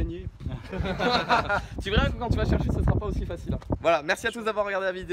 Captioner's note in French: Rires